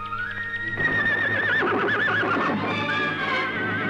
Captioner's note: horses neighing; dramatic orchestral music